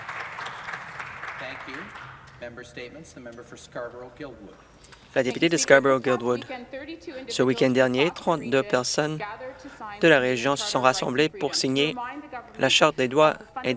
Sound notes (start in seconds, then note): 2.1 some Applause